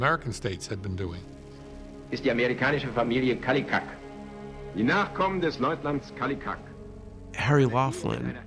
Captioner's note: man speaking in German